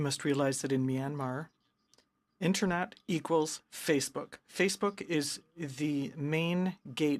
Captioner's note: speaking in french